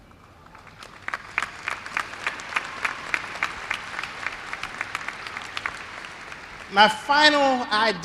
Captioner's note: applause